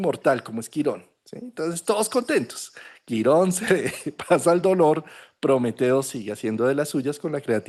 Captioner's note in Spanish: risas